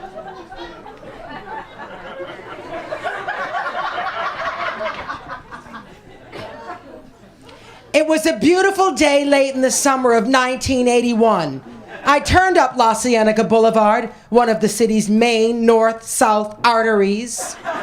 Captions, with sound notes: (IMITATING MELISSA) "It was a beautiful day, late in the summer of 1981. I turned up La Cienega Boulevard, one of the city's main north-south arteries.